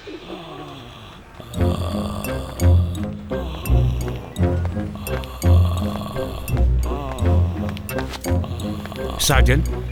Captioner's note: snoring